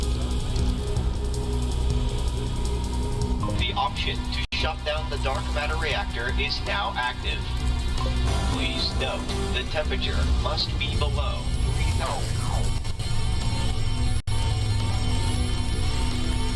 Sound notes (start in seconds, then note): 10.1 alarms continue in background; 14.1 alarms